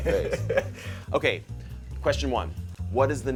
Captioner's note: laughter